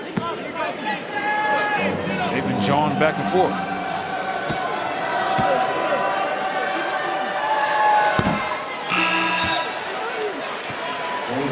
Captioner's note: buzzer